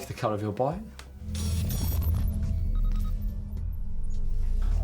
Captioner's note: beeping